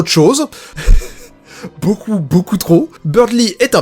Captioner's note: laughs